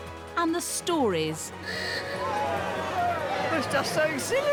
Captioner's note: cheering